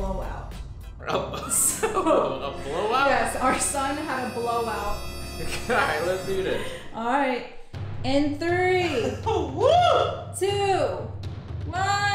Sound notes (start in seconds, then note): 1.1 laughs